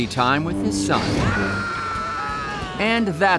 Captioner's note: scream